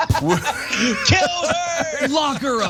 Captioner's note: laugh